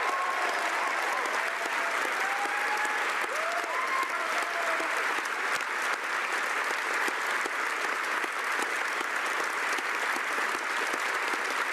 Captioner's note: cheering and Applause